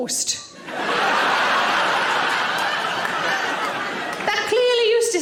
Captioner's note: audience laughing